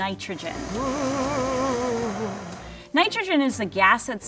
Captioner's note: machine whirring